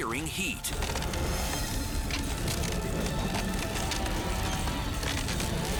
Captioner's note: fire roaring and crackling